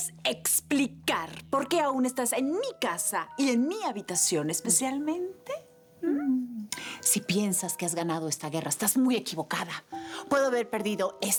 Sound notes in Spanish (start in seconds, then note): none